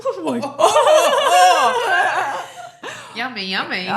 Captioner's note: both laughing